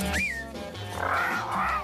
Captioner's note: whistles